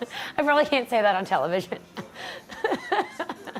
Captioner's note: laughter